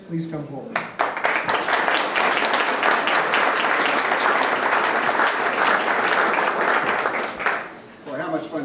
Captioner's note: applause